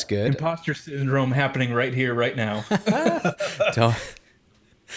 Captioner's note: laughs